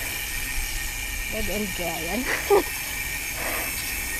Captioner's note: laughs